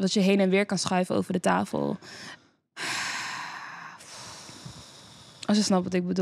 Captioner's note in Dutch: wederom diepe zucht